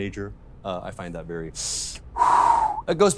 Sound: deep breath

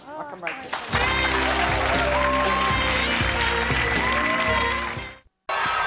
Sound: clapping; energetic music

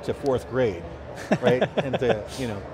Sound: laughing

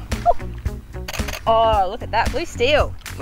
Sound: camera shuttering

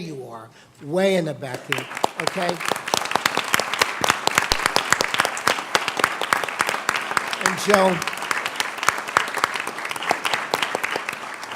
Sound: applause

